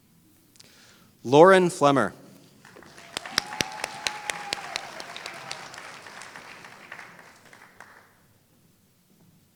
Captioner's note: applause